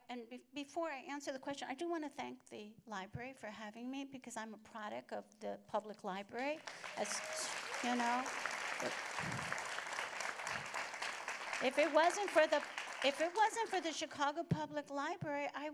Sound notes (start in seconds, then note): 6.6 applause